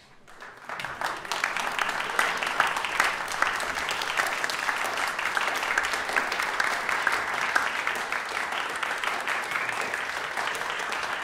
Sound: applause

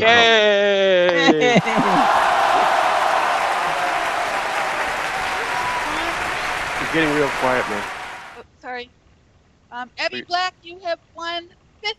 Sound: cheers and Applause

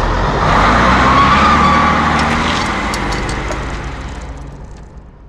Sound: tires screeching

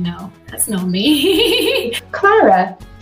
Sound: laughs

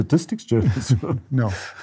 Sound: laughter

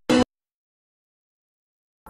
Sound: silence

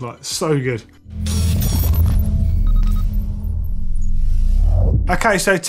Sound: electronic sounds

